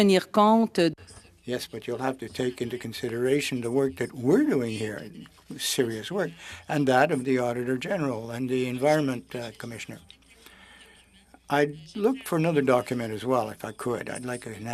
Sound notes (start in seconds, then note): 4.2 speaking French